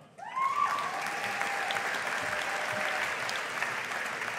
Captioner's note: audience applauding